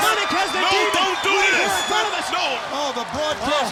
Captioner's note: shouting